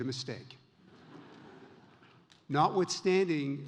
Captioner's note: audience laughs